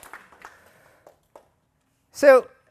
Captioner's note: applause